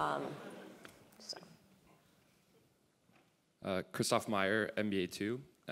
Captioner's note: laugh